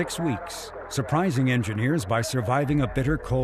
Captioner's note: people clapping; people cheering